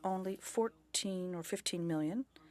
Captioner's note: speaking French